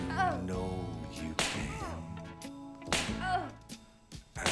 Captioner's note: smack; smack